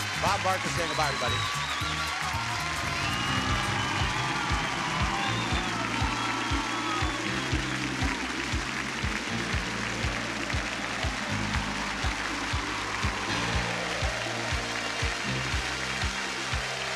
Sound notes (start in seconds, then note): 2.1 audience cheering; 2.1 exciting music